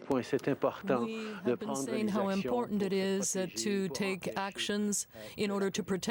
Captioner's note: speaking french